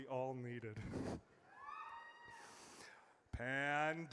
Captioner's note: audience cheers